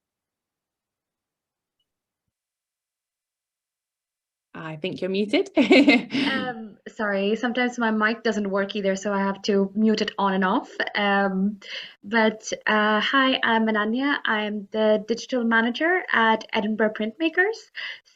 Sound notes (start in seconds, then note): 5.5 laughs